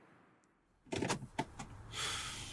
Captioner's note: handbrake clicks; Chris sighs